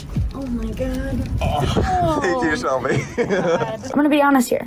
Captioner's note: giggles